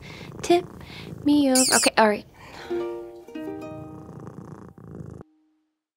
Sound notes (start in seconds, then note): 1.5 sloth squeaks in protest; 3.7 sloth purrs